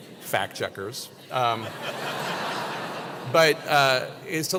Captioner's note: laugh